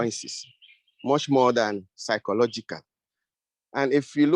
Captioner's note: birds tweeting